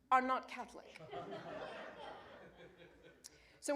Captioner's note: laughter